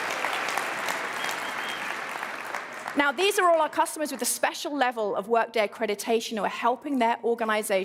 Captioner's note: applause